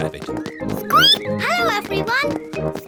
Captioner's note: squeak; squeaks